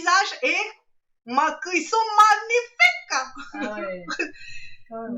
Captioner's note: laughs